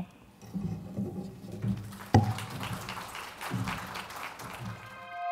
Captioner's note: audience clapping